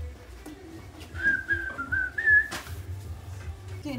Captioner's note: whistles